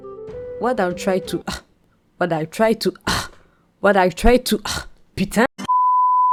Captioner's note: angry French speaker's struggles